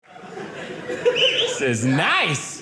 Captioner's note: audience laughing